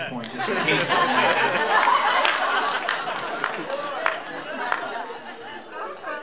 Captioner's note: laughter